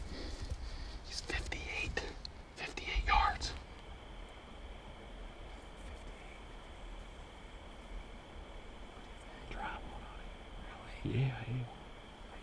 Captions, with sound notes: He's 58. 58 yards. (crickets chirping) (tail flicking) (whispering)